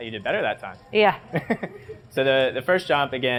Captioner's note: laugh